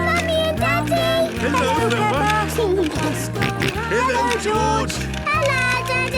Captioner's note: George giggling and snorting